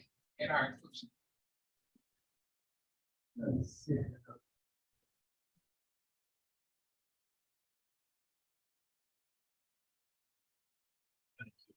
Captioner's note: audio drop